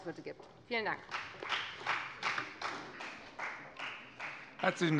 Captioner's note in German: Beifall bei der FDP